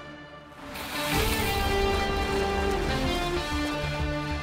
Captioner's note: water splashes